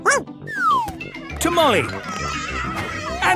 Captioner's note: shouting